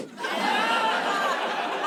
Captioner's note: laughter